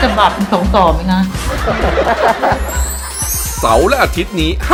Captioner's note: laughter